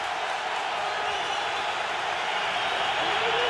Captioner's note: cheering